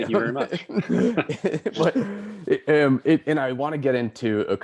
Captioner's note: laughing